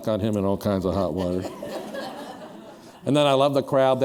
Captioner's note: laughter